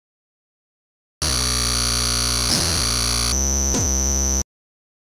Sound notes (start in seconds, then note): 0.0 scary sound